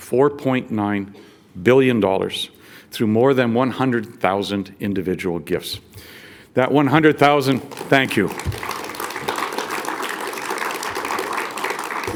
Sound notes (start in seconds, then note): 7.5 audience applauds